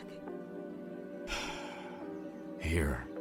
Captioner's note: sighs